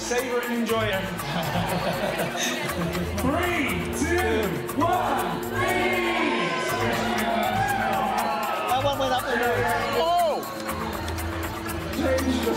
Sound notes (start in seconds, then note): 1.2 laughs; 7.2 crowd cheering